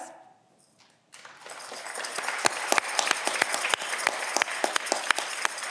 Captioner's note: audience clapping